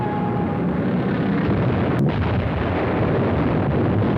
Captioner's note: explosions